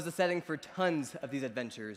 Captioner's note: none